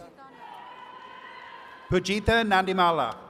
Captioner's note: attendees cheering